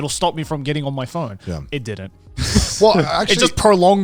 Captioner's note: laughing